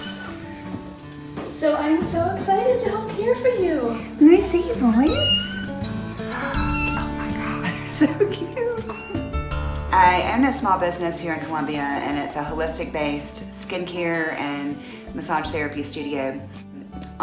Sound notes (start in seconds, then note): 4.8 cat meows